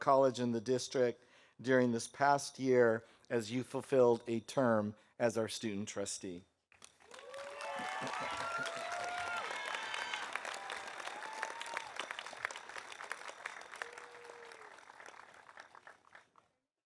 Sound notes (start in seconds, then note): 6.8 audience applauding; 7.1 audience cheering